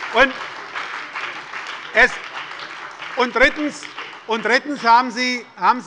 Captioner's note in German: Lebhafter Beifall bei der SPD, der LINKEN und der FDP